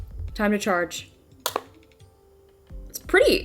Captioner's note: charger thumps